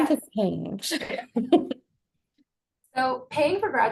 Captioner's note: chuckling